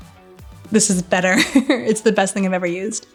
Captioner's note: laughing